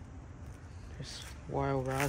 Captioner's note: walking on gravel